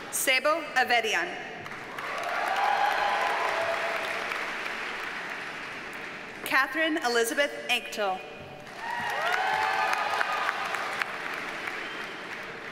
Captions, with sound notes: Sebo Avedian. (audience cheers and applauds) Katherine Elizabeth Anctil. (audience cheers and applauds)